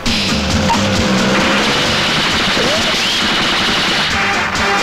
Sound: rapid gunfire

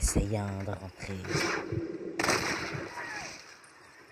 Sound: sounds of cold blood and shoots; scared screams and horse making noises

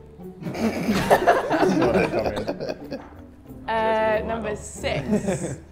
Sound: everyone laughs

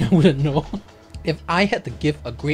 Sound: laughs singularly

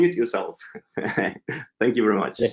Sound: chuckles

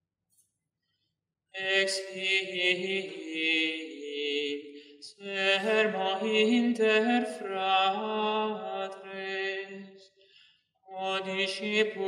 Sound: chant

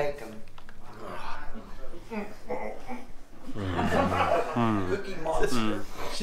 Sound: laughs

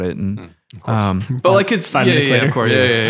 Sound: men chatting

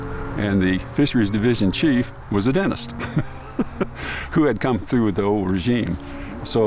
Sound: laughs

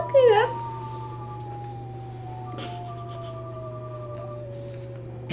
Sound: calculator Sounds

